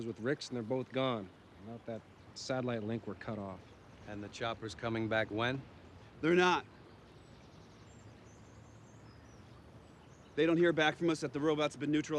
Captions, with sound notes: and they're both gone. Not that satellite link. We're cut off. And the chopper's coming back when. They're not. [Bird chirp] They don't hear back from us at. The robot's been neutralized.